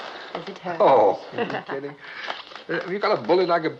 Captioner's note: laughs